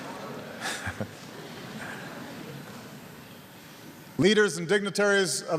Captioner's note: laughter